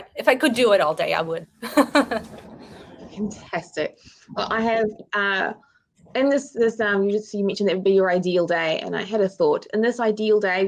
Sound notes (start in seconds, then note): 1.6 woman laughing